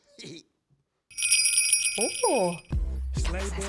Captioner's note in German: Glöckchen läuten